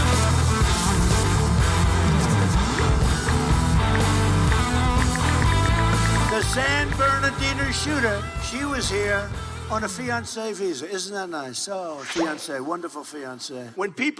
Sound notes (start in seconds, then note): 3.1 ticking